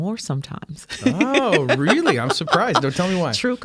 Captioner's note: laughing